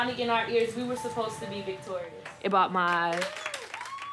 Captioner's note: class applauds